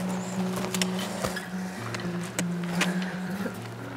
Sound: footsteps

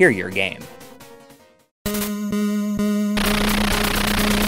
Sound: game audio

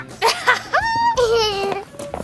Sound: laughs

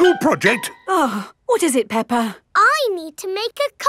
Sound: gasps; sighs

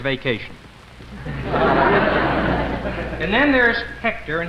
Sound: crowd laughs

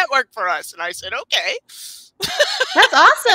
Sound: laughs

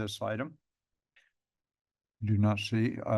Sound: pause

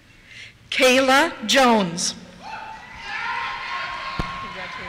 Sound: cheers

